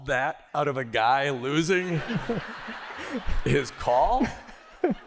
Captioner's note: laughter